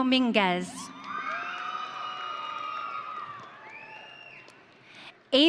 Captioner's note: audience cheering